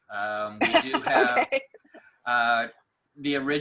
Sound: laughing

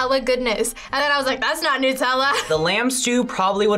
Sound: laughs

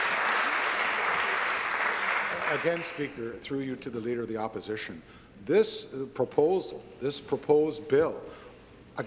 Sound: applause

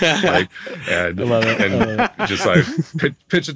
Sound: hosts laughing; laughing

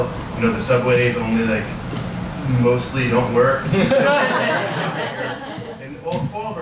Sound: audience laughs

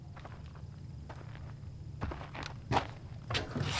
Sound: footsteps approaching

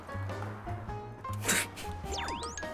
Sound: snort

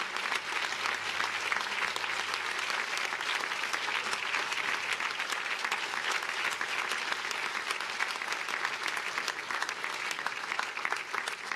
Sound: applause

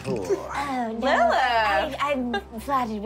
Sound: snorting

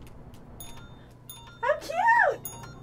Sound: ringing bell; rings bell

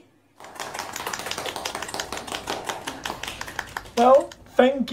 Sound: participants claps

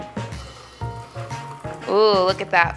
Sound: drink pouring

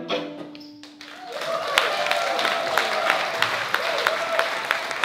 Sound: cheering and applause

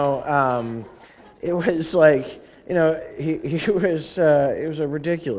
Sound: laughter; chuckle

